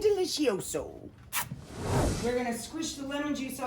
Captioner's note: smacks lips